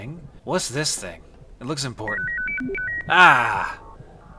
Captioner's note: chorus of beeps